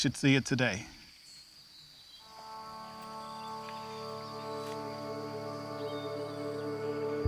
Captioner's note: birds chirping